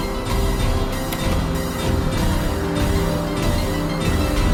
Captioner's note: clicking